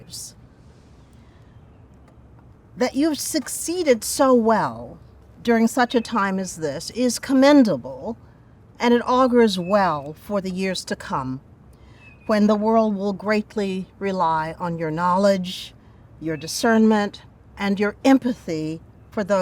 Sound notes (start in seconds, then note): none